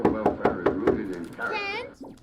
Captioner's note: Trixie knocking